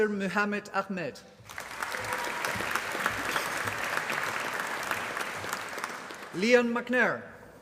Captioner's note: applause